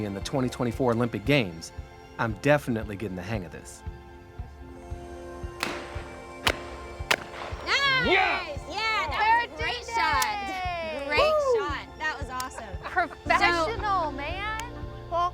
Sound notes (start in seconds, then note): 5.6 shotgun banging